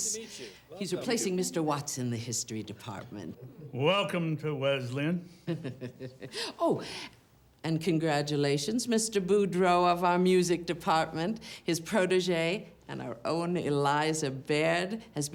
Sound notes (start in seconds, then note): 5.4 chuckles